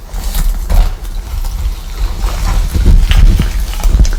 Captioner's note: rustle